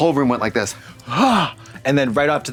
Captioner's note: gasps